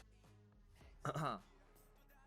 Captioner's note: cough cough